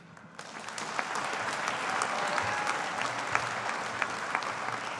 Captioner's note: audience applauding